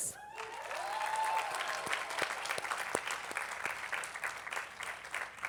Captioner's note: attendees applauding